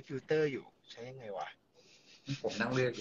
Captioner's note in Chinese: 嘻嘻嘻